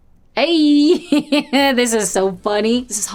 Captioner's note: laughs